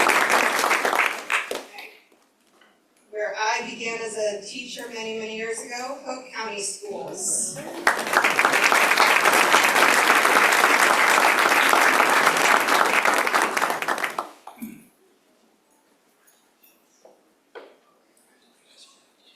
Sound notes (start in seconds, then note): 2.1 applause